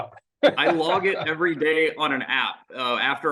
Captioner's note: laughs